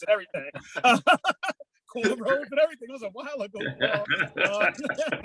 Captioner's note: panelists laughing